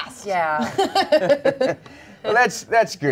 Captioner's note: everyone laughs